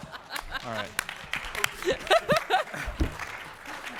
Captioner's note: laughter